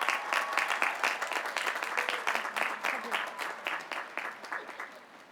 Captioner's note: applause